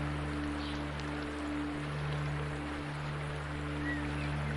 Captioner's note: wind blowing